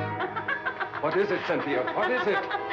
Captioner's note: woman cackling